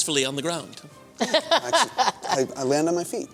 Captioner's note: laughter